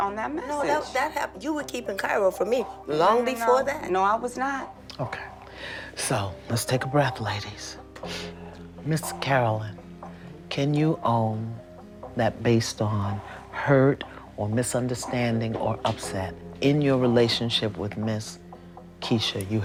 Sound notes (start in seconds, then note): none